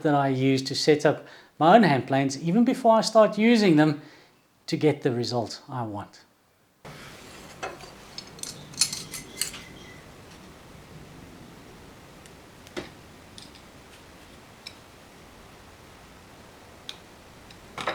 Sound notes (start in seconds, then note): 6.8 workshop Sound